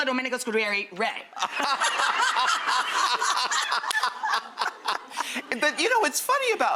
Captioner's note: laughs